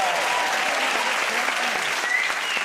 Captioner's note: cheers and applause